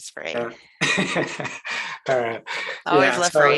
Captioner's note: laughs